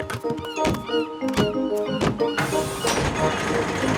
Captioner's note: gulls squawking